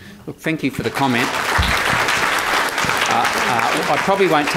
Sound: audience applause

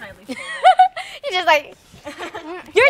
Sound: laughing

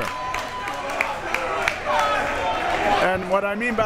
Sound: crowd members shouting

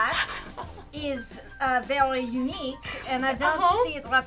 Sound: laughing

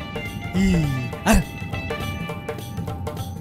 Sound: evil laughter

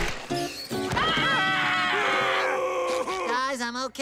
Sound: screaming

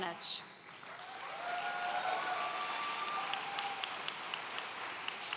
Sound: audience cheering

